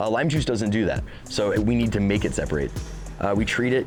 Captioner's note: none